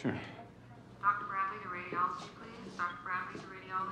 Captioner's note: woman over PA